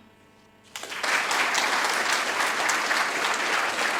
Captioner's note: audience applauding